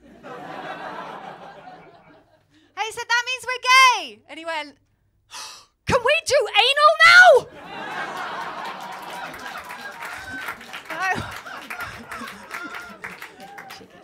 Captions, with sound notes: [LAUGHTER] I said, ‘That means we’re gay!’ And he went... [GASPS] ‘Can we do anal now?’ [LAUGHTER & APPLAUSE]